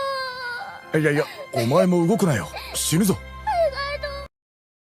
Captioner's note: man talks concernedly in japanese